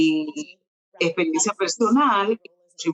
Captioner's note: speaking Spanish